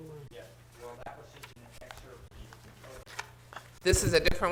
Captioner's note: talking quietly